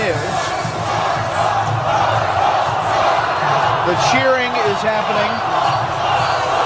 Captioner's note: crowd chants “ron paul!” “ron paul!” “ron paul!”